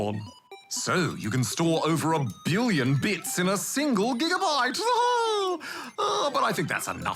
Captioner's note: laughs